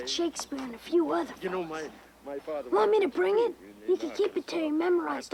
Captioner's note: none